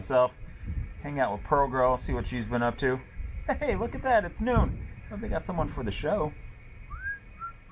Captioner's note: whistling